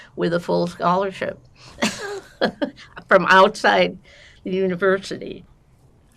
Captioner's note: laughing